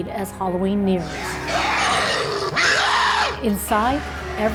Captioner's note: scary growl